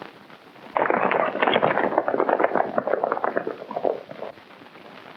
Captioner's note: hooves clomping